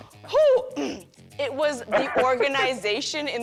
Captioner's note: clears throat